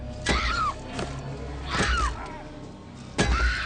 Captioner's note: screams